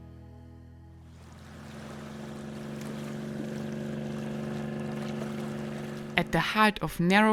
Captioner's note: gentle music; water sloshing; motorcycle engine revving